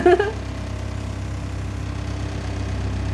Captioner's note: laughing; door vibrating